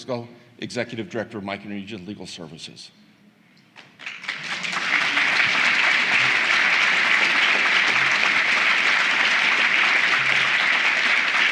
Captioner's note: applause